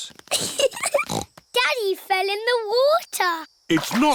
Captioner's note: giggling